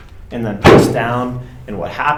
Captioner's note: table clanking